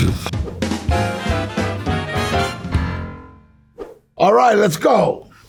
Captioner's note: air whooshes; bright jazz music